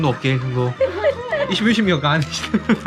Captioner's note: laughing at the neighbor's kid